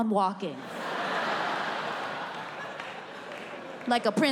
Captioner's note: audience laughs